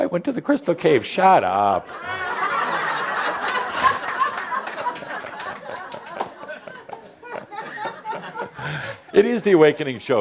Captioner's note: laughter